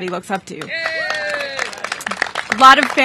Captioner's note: applause